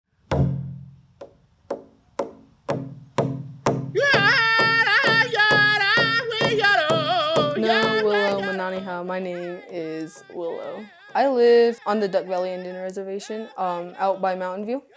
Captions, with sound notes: [Drumming] [Speaking in native language] My name is Willow. I live on the Duck Valley Indian Reservation out by Mountainview.